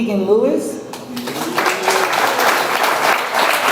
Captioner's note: audience applauds